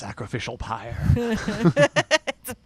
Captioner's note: both laughing